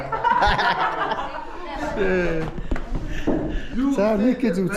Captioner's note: laughing